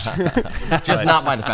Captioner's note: laughter